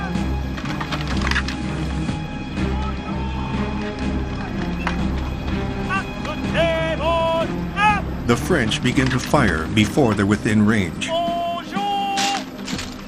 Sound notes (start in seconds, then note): 0.4 firearms clack; 2.4 commander shouts orders in French; 10.3 commander shouts orders in French